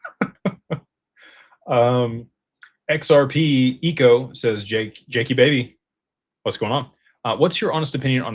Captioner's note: laughter